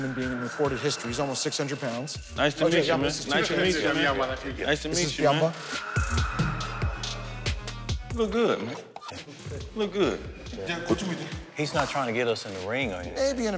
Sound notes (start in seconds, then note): 10.6 speaking Japanese